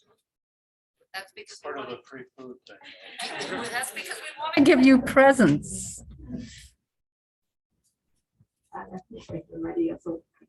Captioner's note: laughter